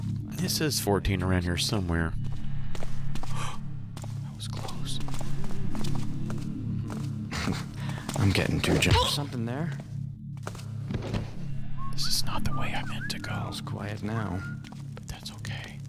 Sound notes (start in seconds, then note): 2.4 gasps; 11.8 whispers